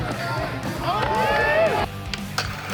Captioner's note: crowd cheers